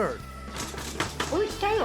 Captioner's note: rustling sounds offscreen